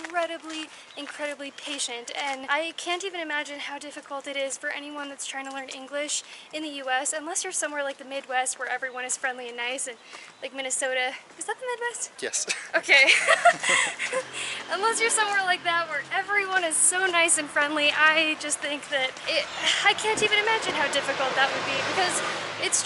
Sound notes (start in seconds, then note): 12.4 laughter